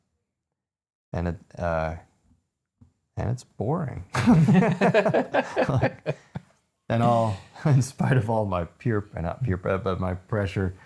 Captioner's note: laughing